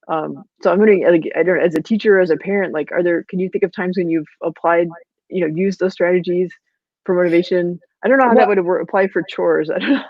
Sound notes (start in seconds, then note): 1.3 voice muffled